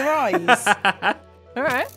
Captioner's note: laughs